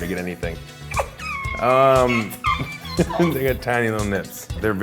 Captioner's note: laughs